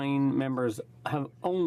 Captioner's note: speaking french